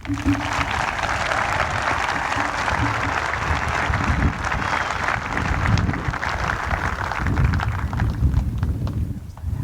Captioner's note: applause